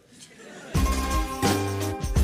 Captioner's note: laughter